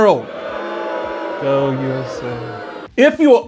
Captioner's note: crowd boos